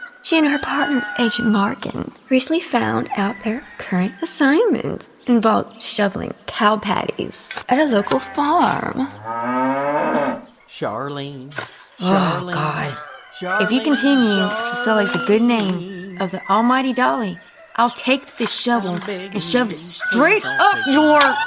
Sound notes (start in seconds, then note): 9.0 cow moos; 9.2 shovels thunk into ground